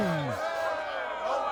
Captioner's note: cheering